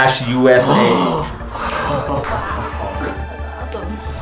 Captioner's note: group gasping